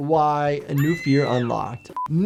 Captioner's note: person screams; upbeat music; tone beeps